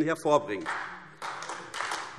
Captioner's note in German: Beifall AfD